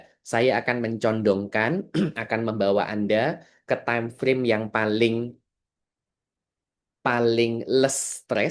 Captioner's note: berdehem